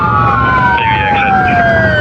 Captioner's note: sirirenen waiaililing